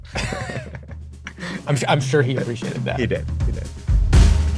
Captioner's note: laughs